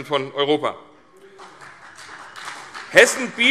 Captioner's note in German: Beifall CDU und BÜNDNIS 90/DIE GRÜNEN